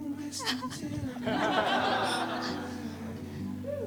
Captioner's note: laughter